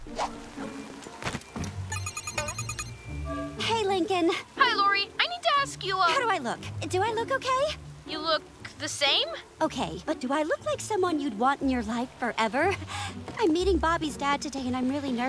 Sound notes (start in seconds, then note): 1.9 ringing